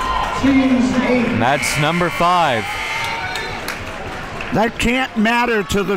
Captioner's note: buzzer rings